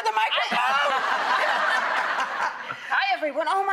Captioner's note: audience laughing